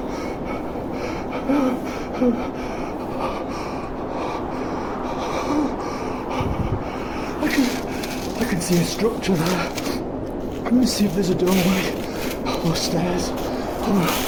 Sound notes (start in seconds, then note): 4.8 icy wind